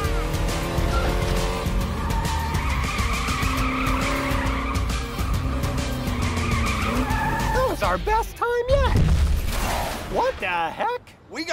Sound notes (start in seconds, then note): 0.0 engine roaring; 2.4 tires squealing; 8.8 booming thud; 9.1 glass shattering